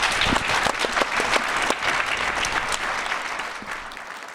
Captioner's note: audience applauding